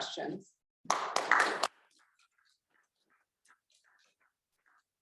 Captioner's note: audience applauds